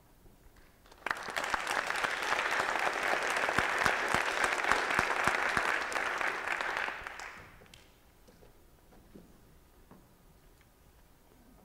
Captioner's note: applause